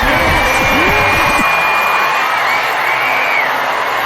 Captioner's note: cheering; happily screech while cheering